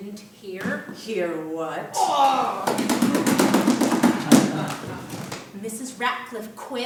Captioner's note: sound of hand slapping on chair